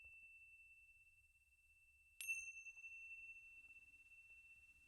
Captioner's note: bells ringing